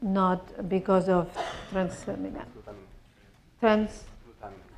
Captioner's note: speaking spanish